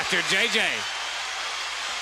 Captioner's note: crowd cheering; crowd chatter